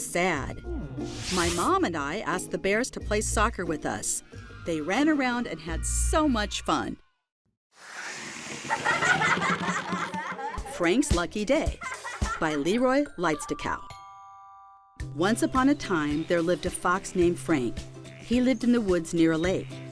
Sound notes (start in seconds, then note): 9.9 children laughing; 9.9 logo whooshing